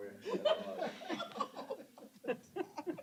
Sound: laughter

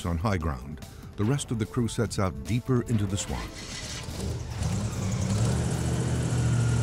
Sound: motor revving

